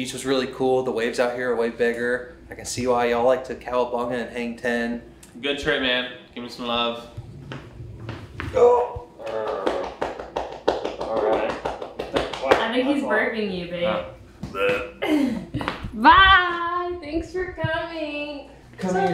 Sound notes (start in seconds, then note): 7.1 slaps back; 8.5 grunts; 14.5 makes burp noise; 15.0 giggles